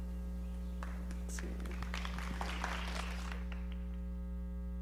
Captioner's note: audience clapping